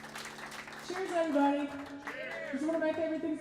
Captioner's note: crowd